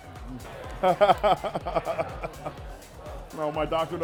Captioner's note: laughing